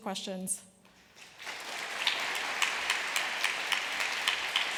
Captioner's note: applause